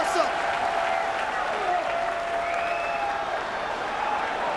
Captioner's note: crowd cheering